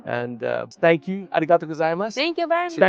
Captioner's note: speaks in foreign language